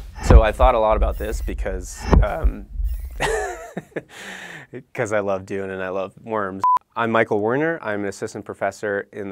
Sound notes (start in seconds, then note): 3.1 chuckling